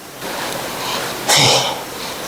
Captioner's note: sigh